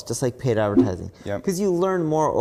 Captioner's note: graphics whooshing